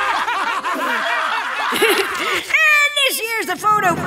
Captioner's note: laughing